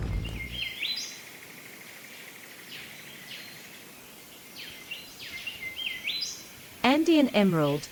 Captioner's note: bird's wing flapping; birds singing